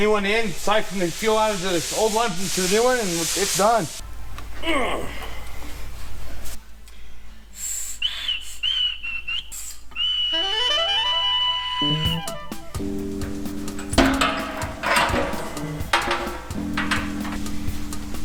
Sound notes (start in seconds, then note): 4.6 grunts